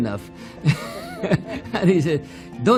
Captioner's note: laughs